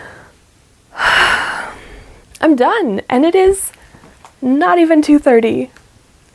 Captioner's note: exhilarated sigh